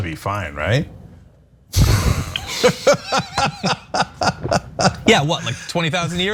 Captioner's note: laugh